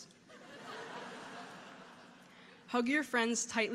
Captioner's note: audience laughing